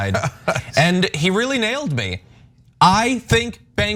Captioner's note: laugh